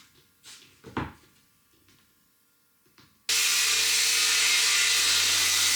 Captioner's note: saw buzzing